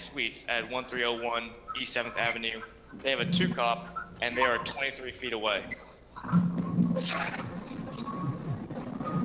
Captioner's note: ~distortion~